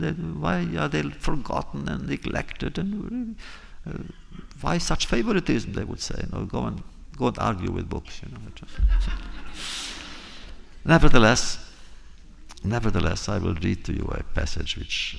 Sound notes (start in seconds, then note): 8.8 laughter